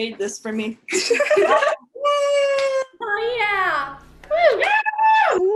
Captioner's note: attendees cheering